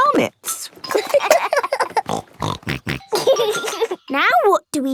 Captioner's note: laughing; snorting